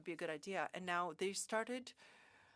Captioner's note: speaking French